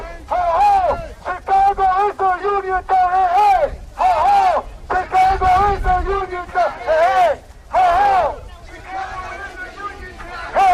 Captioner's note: chanting; chanting